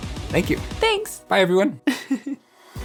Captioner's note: laughs